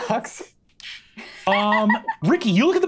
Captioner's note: laughs